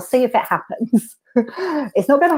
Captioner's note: laughs